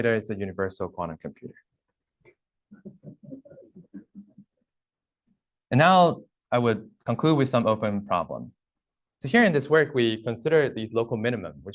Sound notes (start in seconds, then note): 2.9 laughter